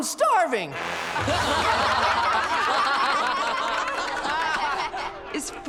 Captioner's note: laughing